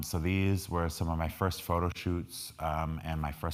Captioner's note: none